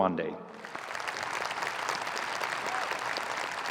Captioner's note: applause